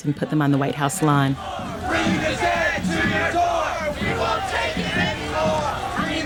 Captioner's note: soundbite of protest; chanting